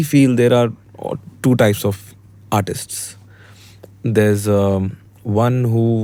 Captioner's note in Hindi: नाक से की जाने वाली आवाज़